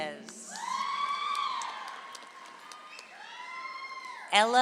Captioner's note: audience applauds